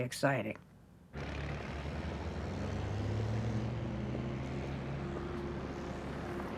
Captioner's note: bus engine rumbling